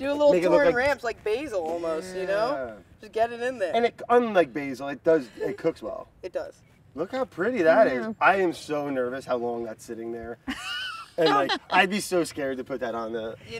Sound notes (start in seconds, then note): 10.5 chuckles